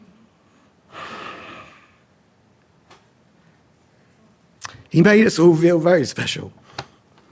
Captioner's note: sighs